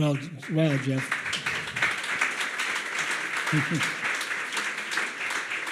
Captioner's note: audience applauds